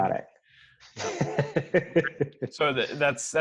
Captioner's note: laughing